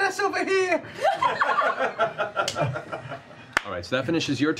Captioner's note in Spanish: risas